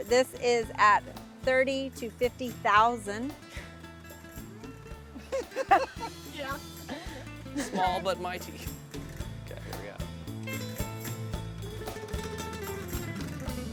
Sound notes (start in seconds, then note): 5.2 laughing; 11.0 gentle music